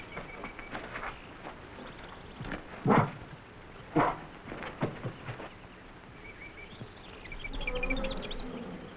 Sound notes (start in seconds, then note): 2.9 animals chattering; 2.9 gorilla grunting